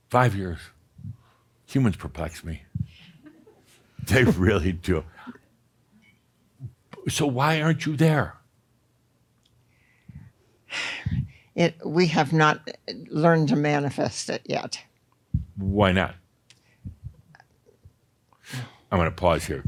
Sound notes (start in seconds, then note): 10.5 sighs